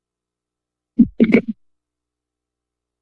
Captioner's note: microphone thuds